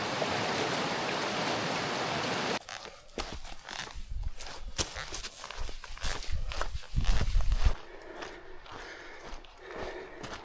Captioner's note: wind blowing